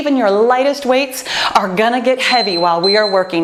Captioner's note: timer beeps